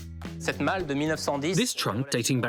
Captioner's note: interviewee speaking foreign language